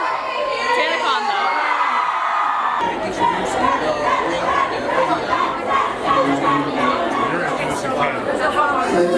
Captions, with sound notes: TanaCon though. (people chattering)